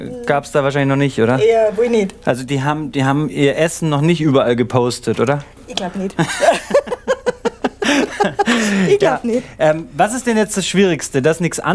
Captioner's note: laughing